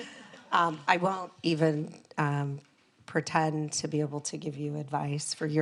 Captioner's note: laughs